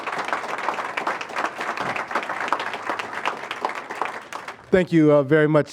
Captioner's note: applause